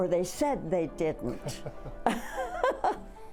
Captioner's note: laughing; upbeat piano music